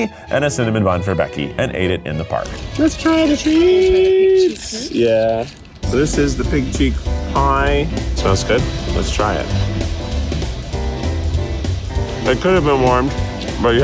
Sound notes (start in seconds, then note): 2.3 packets rustling; 7.8 inhales sharply; 10.2 teeth gnashing